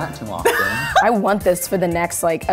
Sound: laughs

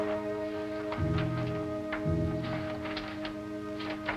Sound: papers rustling

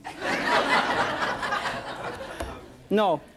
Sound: audience laughs

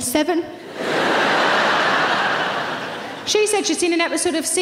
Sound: audience laughing

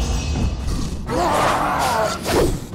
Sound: roaring

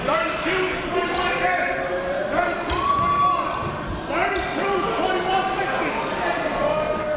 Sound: crowd talking; coaches yelling

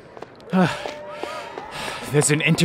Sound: huff, puff

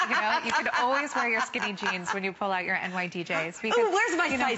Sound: laughter

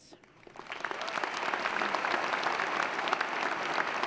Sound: applause

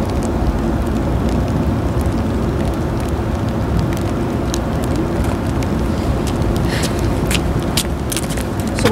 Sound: rain falling

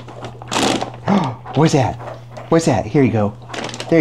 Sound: bag crinkles

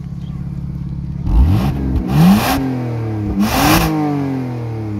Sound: engine revs

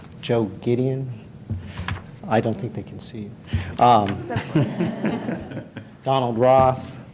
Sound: laughter

